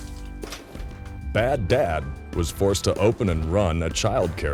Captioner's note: voiceover